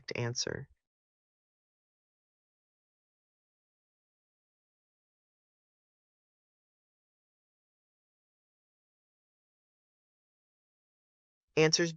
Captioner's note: no audio